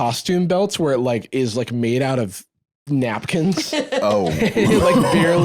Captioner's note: laughs